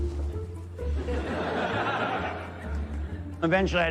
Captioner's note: audience laughs